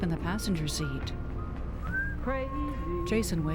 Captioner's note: whistling Along